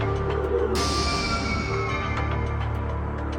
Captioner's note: sword whooshing; ominous and tense electronic music